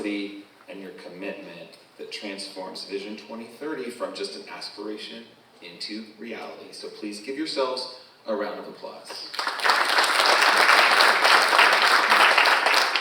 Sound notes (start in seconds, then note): 9.2 audience applauding